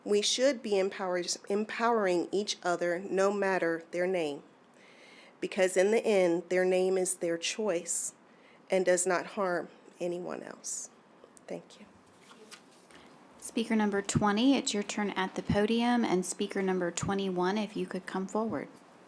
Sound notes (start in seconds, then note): 12.0 paper rustling; 18.9 silence